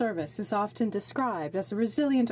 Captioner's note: speaking French